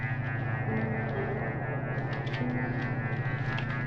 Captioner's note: Oliver sobbing